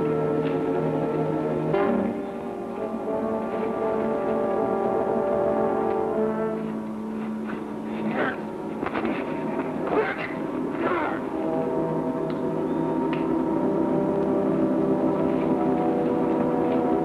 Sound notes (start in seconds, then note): 10.7 men grunting